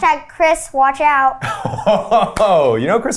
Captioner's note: laughs